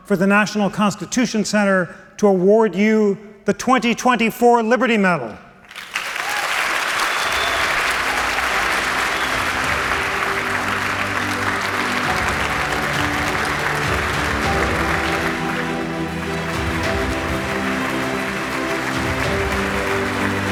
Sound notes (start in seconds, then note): 5.6 applause